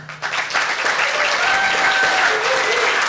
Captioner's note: audience applause